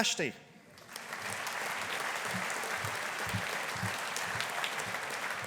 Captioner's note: audience applauding